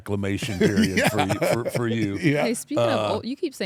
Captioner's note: laugh